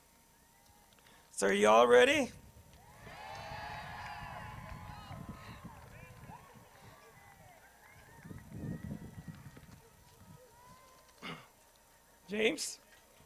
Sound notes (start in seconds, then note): 2.7 crowd; 6.1 crowd cheers